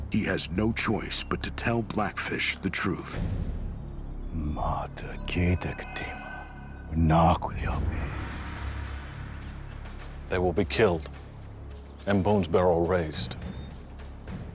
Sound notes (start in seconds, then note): 4.5 speaking shawnee